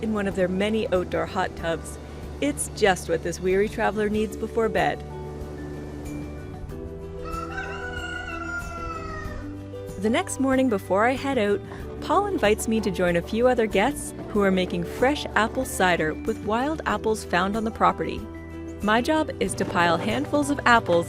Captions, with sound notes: of their many outdoor hot tubs. It's just what this weary traveller needs before bed. [crowing] The next morning before I head out, Paul invites me to join a few other guests who are making fresh apple cider with wild apples found on the property. My job is to pile handfuls of apples